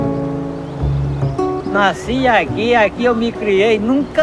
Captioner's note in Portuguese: Voz masculina